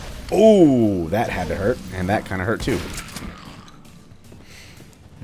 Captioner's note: shotgun blasting